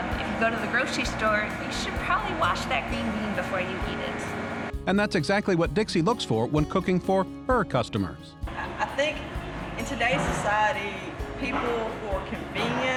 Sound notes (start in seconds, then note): 5.0 voiceover